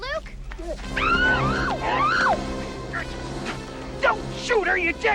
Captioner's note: women screaming